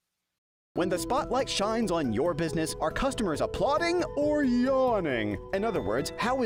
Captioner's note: voiceover